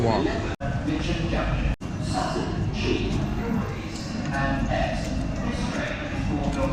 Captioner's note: station announcer speaking faintly